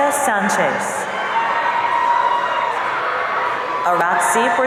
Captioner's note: audience cheering